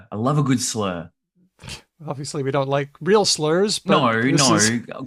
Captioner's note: laughs